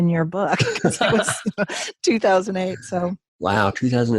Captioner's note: laughing